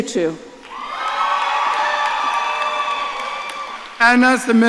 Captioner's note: audience cheering